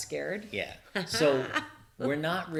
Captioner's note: she chuckles